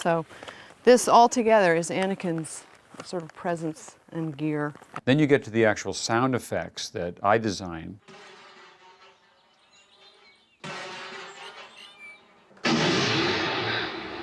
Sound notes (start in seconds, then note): 8.5 explosions; 12.6 explosion